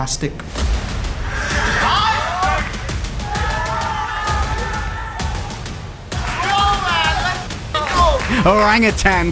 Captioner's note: applause